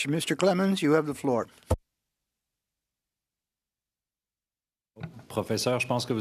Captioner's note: speaking French